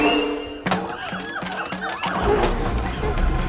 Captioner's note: monkeys hooting, shrieking